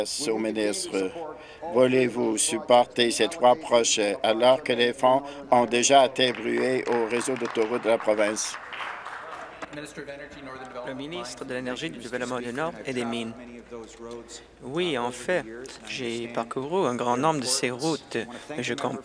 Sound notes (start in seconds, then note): 10.5 applause